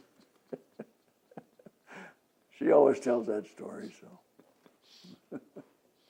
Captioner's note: both laughs